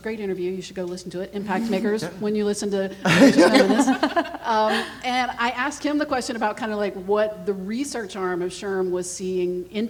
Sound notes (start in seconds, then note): 3.0 everyone laughing